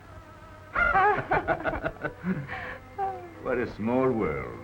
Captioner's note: both laugh